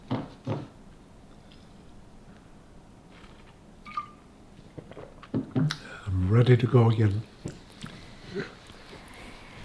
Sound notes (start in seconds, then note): 1.2 drinking